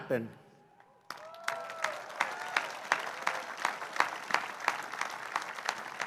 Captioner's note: applause